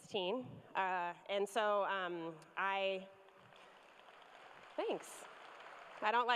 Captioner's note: cheers and applause